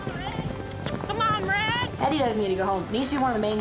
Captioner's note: hoofbeats